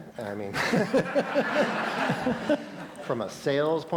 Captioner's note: laughter